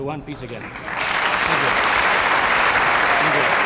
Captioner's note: audience clapping